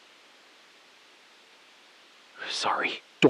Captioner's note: beat